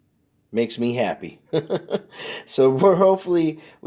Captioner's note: laughing